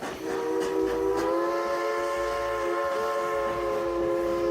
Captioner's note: train engine revving; train horn honking